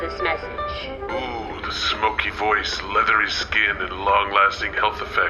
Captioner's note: playback start sound; alluringly, over lo-fi music